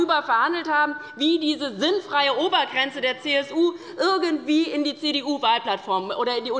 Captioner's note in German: none